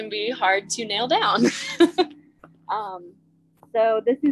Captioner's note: laughs